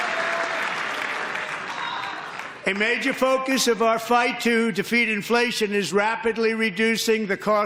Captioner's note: applause